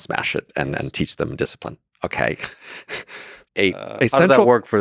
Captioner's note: chuckles